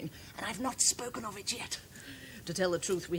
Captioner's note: whispers